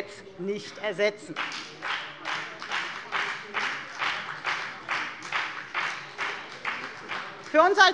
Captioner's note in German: Beifall bei der FDP